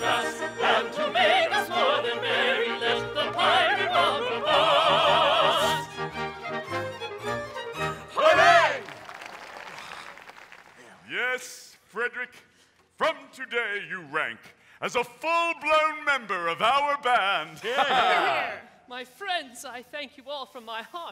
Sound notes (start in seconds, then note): 8.2 audience applauding; 17.8 all exclaiming